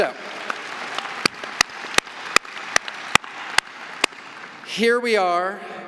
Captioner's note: audience applauding